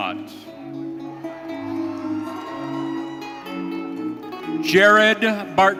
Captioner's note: audience cheering